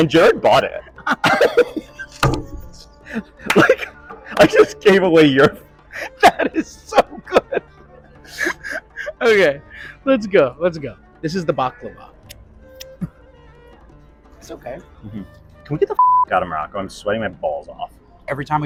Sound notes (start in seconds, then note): 0.8 laughing; 5.8 laughing; 12.2 moroccan music; 12.7 licking fingers; 15.1 moroccan music; 16.0 beep